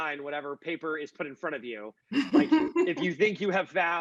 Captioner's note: laughing